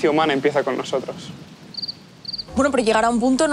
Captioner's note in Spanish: Grillos